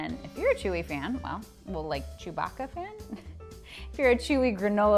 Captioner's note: chuckles